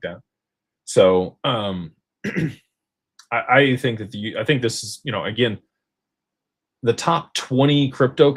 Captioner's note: clears throat